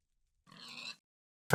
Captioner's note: pig death squeal